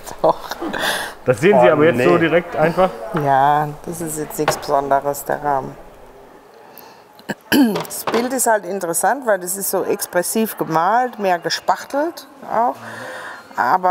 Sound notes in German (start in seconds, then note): 0.2 lachend; 7.2 Sie räuspert sich